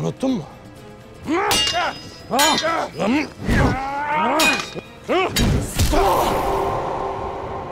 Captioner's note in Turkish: Dövüş sesleri